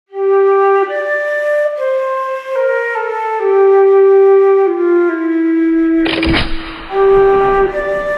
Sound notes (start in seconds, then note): 0.0 sad flute music; 6.0 musket shot; 6.8 sad flute music